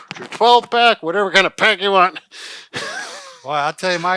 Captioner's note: laughs